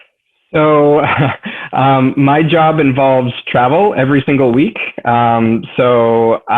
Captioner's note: laughs